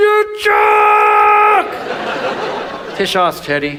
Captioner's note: audience laughs